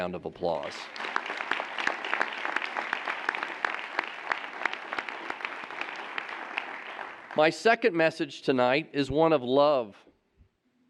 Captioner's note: applause